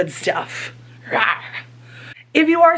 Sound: roars

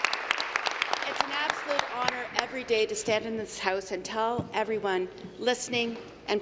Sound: applause

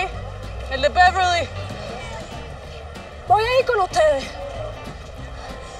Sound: Lupe and Esti speak in Spanish

